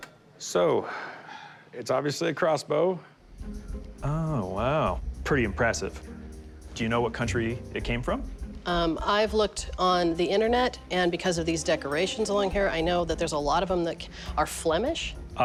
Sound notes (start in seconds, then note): none